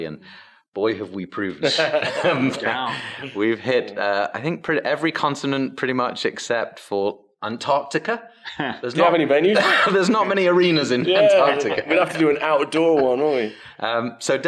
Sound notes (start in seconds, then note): 1.8 laughs; 9.5 chuckles